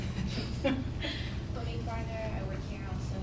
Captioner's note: laugh